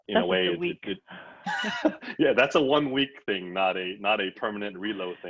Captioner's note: laughs